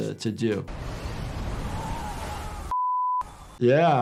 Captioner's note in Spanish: Edificio derrumbándose